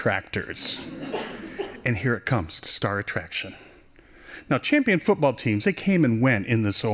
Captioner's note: laughing